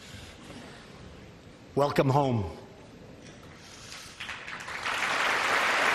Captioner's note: applause